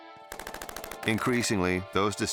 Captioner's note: gunshots firing